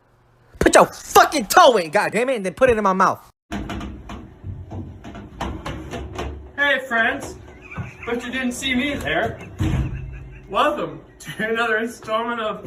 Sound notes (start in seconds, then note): 7.4 cameraman laughing